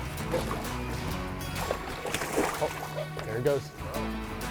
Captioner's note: fish splashing